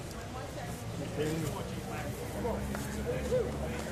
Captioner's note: laughter